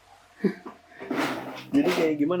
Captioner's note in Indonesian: suara kotak penyimpanan